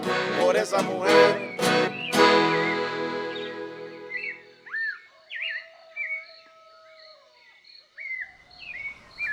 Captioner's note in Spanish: cantos de pájaros